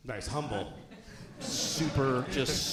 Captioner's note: audience laughing